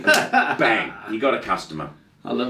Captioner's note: hands clapping; laughing